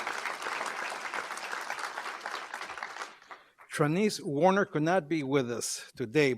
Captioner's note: applause